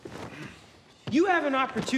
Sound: Donnie grunts

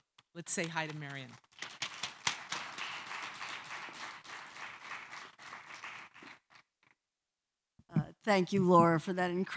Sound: applause

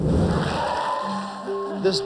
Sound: applause

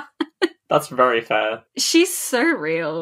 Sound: laughing

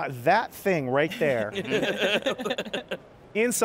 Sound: all laughing

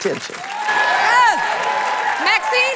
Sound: cheers and applause

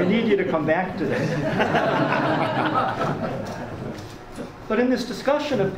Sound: audience laughs

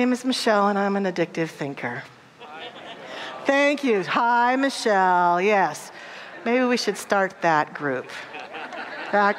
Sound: audience laughter

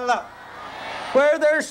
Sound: crowd responding

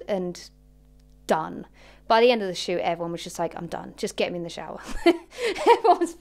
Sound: laughs

